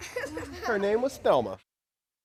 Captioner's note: kids giggling